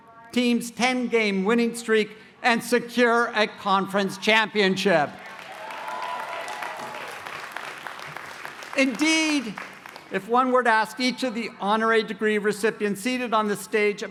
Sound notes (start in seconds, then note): 5.2 cheering and applause